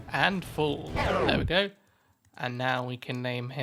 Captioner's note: record Scratches Sound Effect